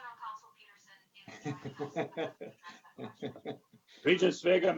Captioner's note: laughs